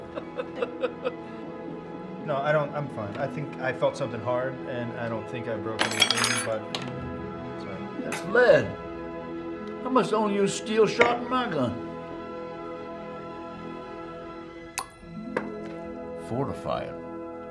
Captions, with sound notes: (laughing) No, I don't, I'm fine. I think I felt something hard, and I don't think I broke anything, (clanking) but, sorry. - That's lead. I must've loaned you the steel and shot my gun. Fortifier.